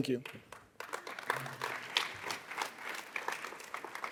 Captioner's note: audience applauds